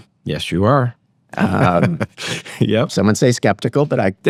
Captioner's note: laughter